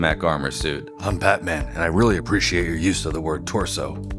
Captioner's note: Deep Batman Voice